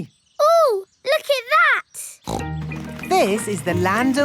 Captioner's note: snorts